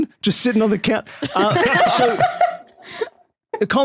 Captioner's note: others laughing